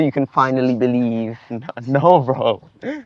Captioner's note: Ayman chuckles